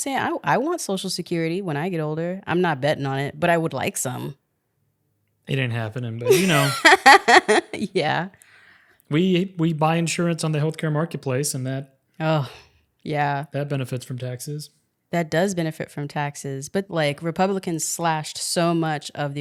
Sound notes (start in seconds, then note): 6.2 laughing